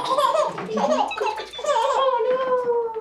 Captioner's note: baby giggles